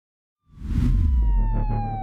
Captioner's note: siren wailing; pensive music